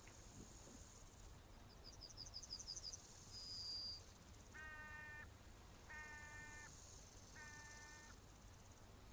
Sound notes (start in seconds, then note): 2.7 insects chirping; 4.6 bird cawing